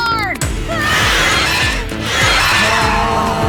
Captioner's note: hissing